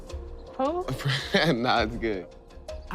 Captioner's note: chuckles